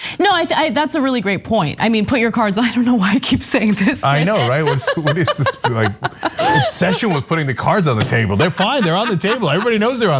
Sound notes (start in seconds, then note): 4.0 laugh